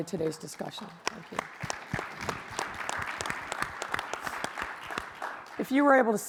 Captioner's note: audience applauds